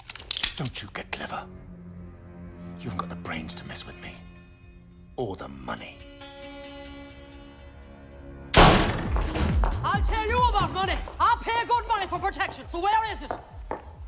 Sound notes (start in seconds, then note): none